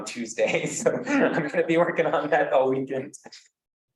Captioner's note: laughs